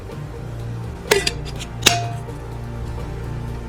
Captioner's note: snap